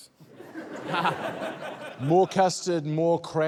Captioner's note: laughter